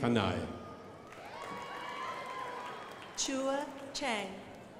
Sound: crowd applauding

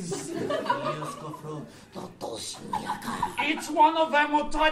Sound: grunting in “Polish”

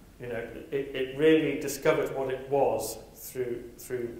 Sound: none

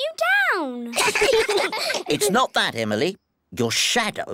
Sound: all giggle

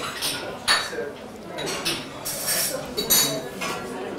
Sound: clatter of dishes

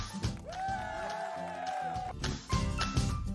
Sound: cheering

